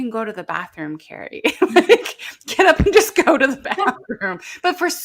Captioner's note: laughs